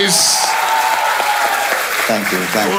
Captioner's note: crowd applauding